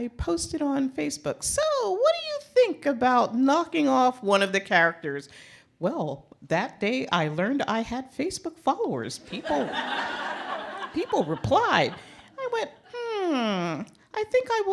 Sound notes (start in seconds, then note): 9.3 laughter